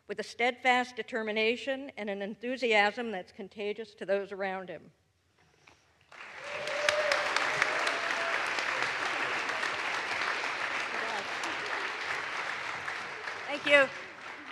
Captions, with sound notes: with a steadfast determination and an enthusiasm that's contagious to those around him. (audience applauds) (audience cheers) Thank you.